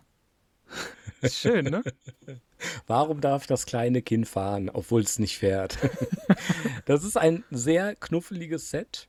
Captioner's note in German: gelächter